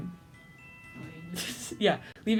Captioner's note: hissing laughter